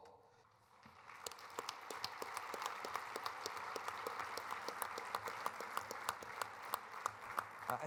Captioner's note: applause